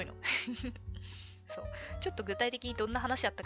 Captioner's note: laughs